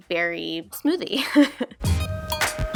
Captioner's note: chuckles; intense dynamic music